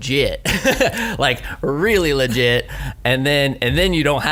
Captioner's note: laughs